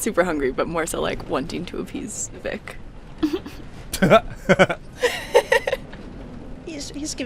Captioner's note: laughter